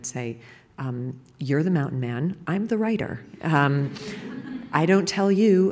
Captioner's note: laughter